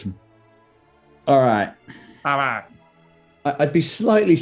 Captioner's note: brays